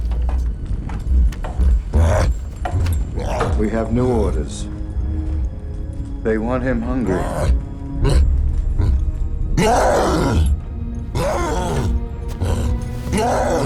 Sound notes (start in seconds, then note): 9.6 cyclops roars